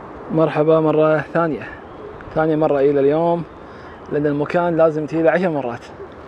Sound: speaking foreign language

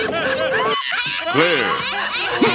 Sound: laughter

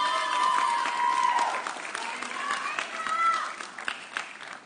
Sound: audience cheering

